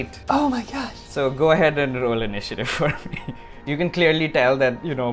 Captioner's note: laughs